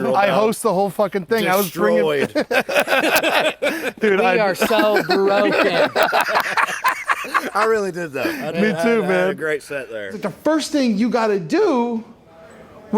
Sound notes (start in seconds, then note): 2.2 laughter